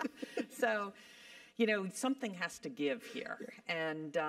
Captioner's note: laugh